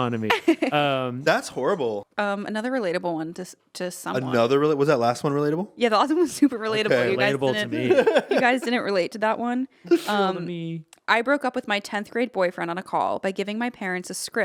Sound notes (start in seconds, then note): 0.3 laughing; 6.8 laughing